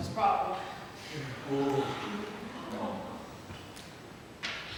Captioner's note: audience reaction